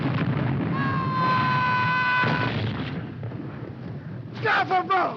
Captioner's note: man screaming